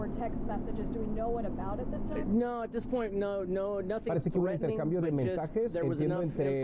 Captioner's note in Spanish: habla en ingés